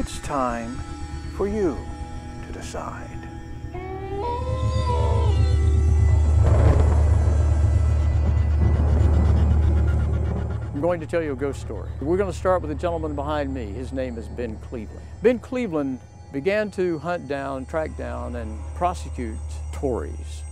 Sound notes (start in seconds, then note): 4.2 howling; 6.3 thunder